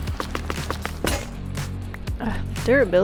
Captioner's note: pickaxe breaking